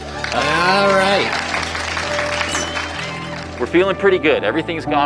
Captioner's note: applause